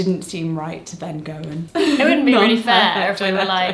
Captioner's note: laughs